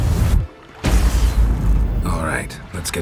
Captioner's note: magical humming; soft boom